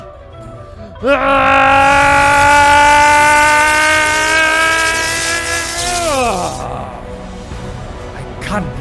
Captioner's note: raaaageeee